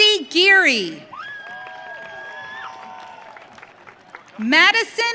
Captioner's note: audience cheering